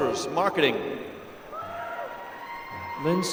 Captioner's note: applause